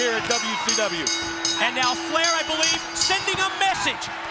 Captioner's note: bell ringing